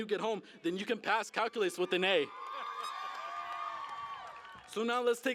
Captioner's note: cheering